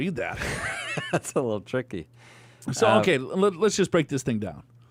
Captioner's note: laughs